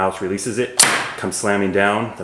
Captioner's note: slam